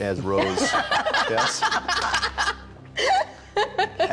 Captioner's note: laughing